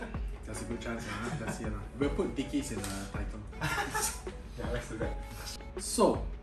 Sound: laughs

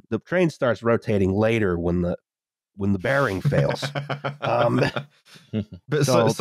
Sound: laughter

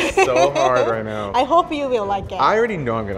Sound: laughs

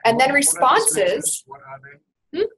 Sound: voiceover

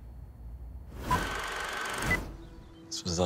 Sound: film clicking

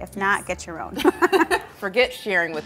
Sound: laughing

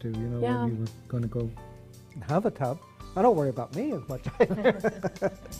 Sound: laughter

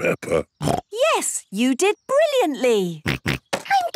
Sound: snorts

